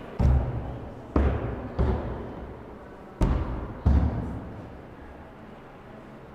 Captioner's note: banging